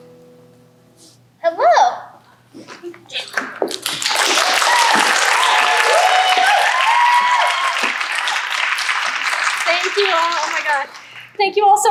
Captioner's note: applause